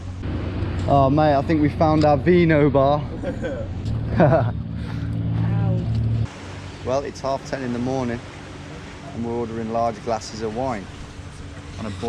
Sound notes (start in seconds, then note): 3.9 laughing